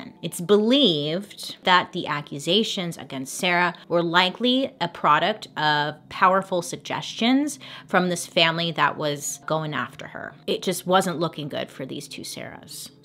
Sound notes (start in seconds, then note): none